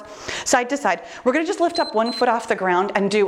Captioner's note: timer beeps